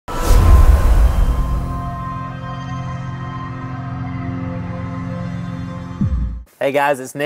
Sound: sound effect

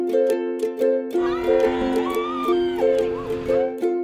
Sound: cheering

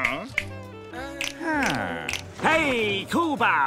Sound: snapping

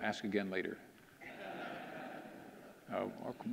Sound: audience laughing

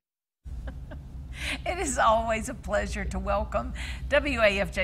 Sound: laughing

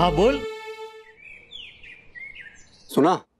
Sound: birds chirping

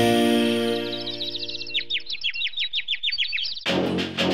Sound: birds chirping; upbeat music

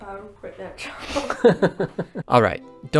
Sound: laughing

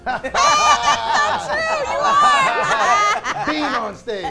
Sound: laughing

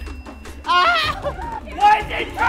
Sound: bell dings; screams

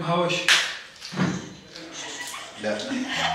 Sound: chuckles; laughs

